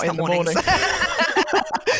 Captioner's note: laughing